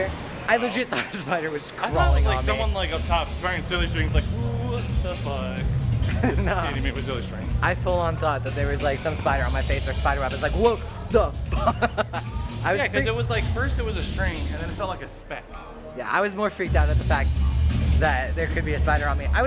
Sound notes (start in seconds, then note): 6.0 laughs; 11.4 laughs